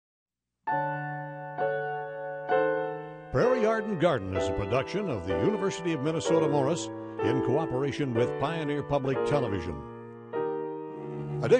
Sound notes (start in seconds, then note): 0.7 slow piano music; 3.3 voiceover